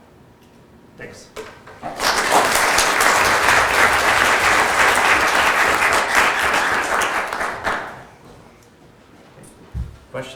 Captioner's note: applause